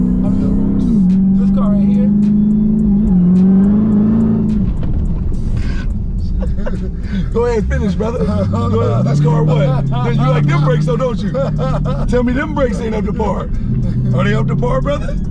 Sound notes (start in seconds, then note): 3.3 car engine revving; 3.3 laughs; 8.6 laughing